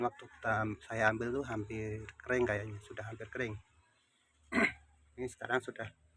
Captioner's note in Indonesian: berdehem